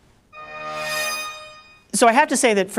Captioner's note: buzzes